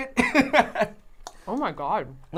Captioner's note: laughing